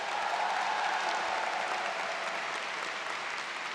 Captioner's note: audience cheers